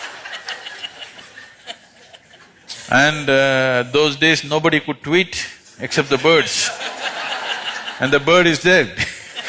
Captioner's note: laughter; laughter